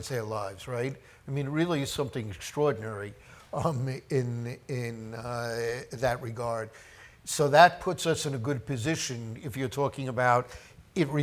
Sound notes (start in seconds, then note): none